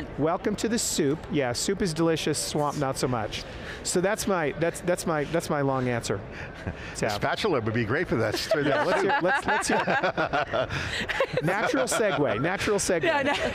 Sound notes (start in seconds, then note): 8.2 laughing